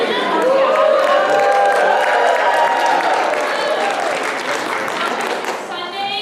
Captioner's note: audience cheers